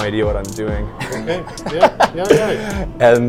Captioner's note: laughing